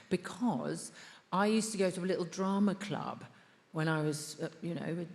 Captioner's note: none